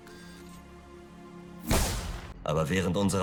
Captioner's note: bang